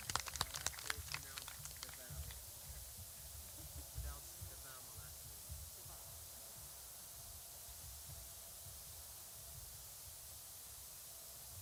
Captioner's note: clapping